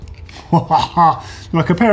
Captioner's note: laughs loudly